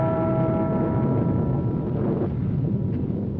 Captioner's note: bell chiming